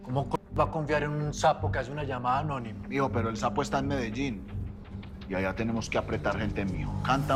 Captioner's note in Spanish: none